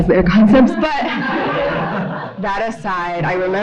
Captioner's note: audience laughs